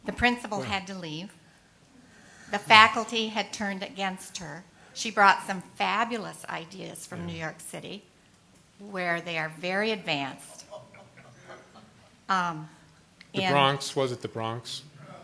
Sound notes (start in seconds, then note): 10.4 laughter